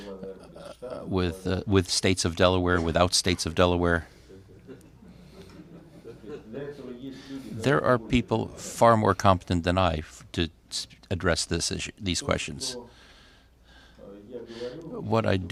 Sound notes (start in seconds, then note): 4.3 laughter